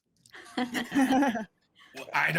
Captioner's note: actors laughing